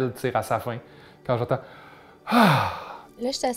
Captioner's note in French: soupir